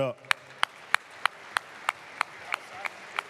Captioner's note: applause